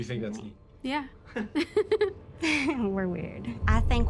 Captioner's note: both giggling